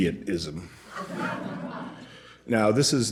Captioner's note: laughter